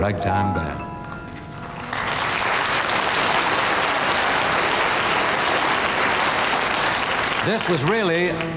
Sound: audience applauding

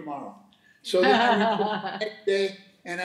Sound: laughing

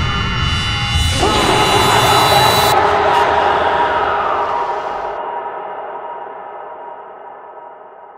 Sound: screaming followed by ghostly shriek

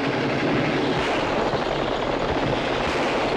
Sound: gunshot

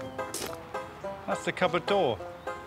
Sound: upbeat music; steps on gravel

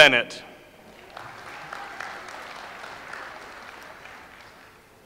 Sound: audience applauds

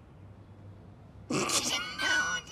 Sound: laughs

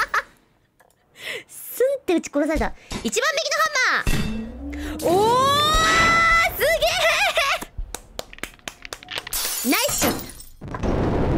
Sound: clap, clap, clap

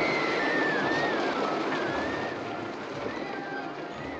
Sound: people Shrieking; roller-Coaster Rumbling

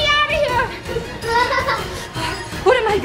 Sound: laughing

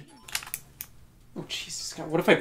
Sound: clicking

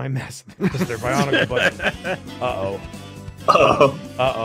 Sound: laughs

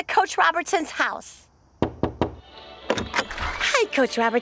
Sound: knocking

